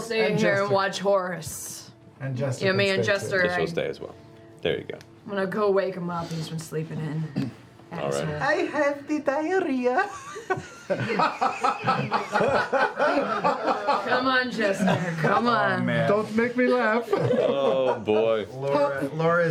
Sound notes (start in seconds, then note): 10.0 laughter